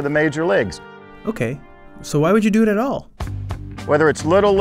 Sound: voiceover

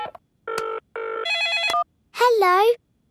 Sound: beeping; phone ringing

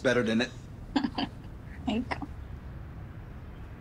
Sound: chuckles

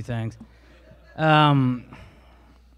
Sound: a few laugh

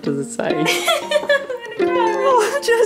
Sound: laughs

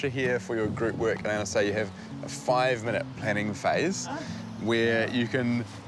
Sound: laughs

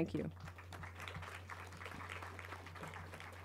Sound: clapping

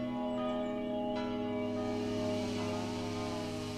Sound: distant chainsaws

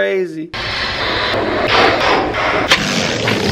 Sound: balloon filling with air; balloon deflating

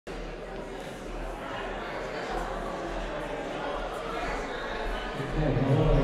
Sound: general chatter

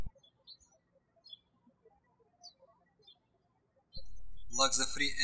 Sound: birds chirping

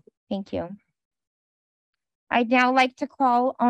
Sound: silence

